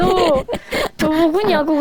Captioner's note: laughing